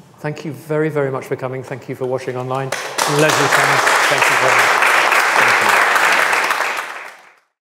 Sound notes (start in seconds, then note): 2.7 audience applause